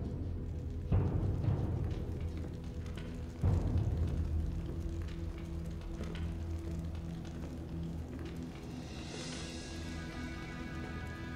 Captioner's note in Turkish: Takırtı ve Ateş Çıtırtısı Sesleri